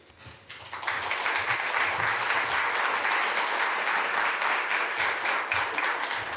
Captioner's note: applause